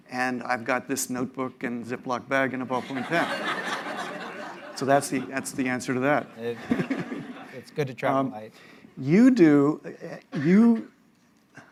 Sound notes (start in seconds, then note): 2.8 laughter